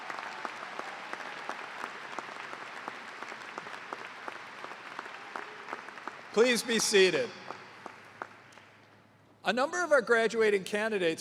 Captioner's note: cheers and applause